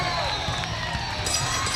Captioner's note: bell ringing